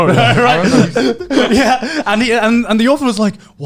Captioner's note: laughing